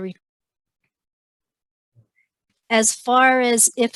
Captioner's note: sound mutes